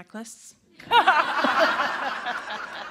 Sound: laughter

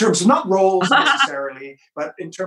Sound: laughs

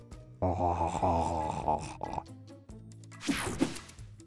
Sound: narrator gags

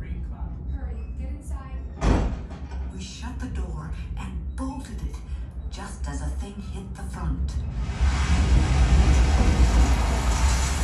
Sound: lots of noise, gale force winds

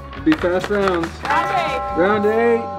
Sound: clock chiming

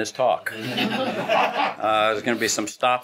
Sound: laughing

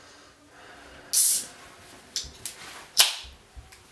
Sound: opens can

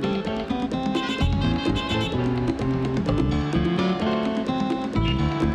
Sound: car horns honking

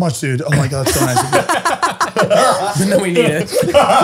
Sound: all laughing

